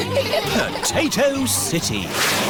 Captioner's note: all giggling